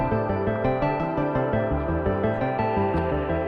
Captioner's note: walking